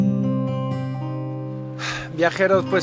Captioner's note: sighs